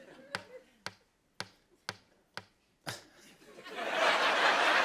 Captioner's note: tapping; laughter